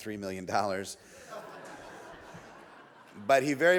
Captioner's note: audience laughs